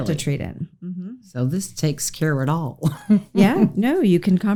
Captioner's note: laughs